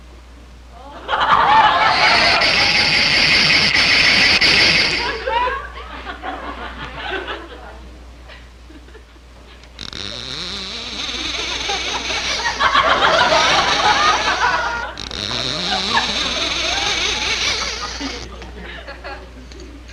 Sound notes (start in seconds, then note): 6.1 audience chuckling; 6.1 reel clicking